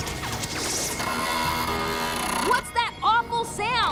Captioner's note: creaking